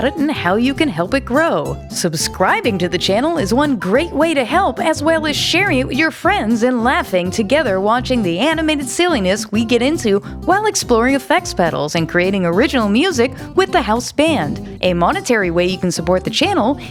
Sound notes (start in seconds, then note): none